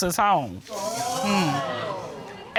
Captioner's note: audience exclaiming